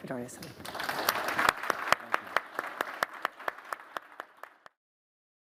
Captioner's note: audience clapping